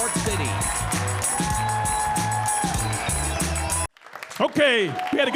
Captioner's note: upbeat music; audience sheering